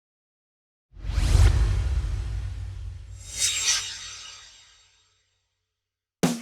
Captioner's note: swoosh